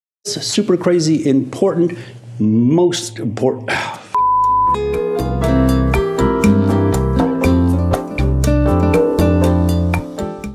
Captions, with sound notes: It's a super crazy important, most important. (beep) (lively music)